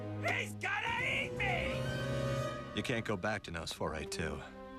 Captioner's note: none